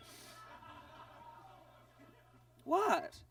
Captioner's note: audience laughs